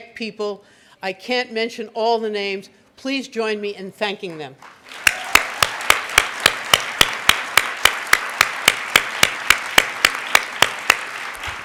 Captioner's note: clapping